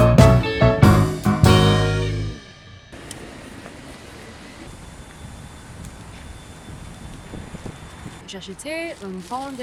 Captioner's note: upbeat music; speaking in foreign language